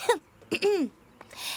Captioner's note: clears throat